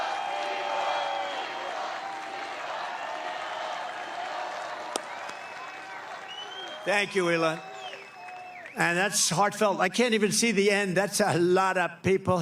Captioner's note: applause; cheering